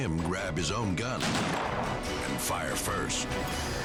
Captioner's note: gunshot firing